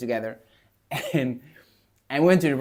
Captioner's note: laughs